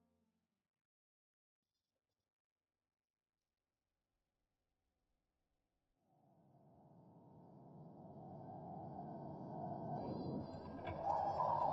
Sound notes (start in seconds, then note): 6.4 wind howling